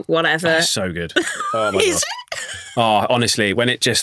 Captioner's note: chuckles